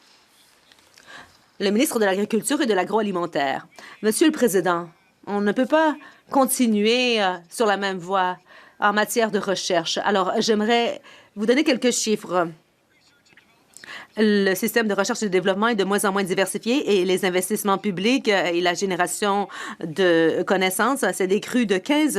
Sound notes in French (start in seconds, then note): 5.2 voix de l'interprète